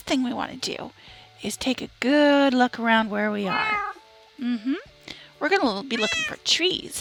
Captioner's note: cat meows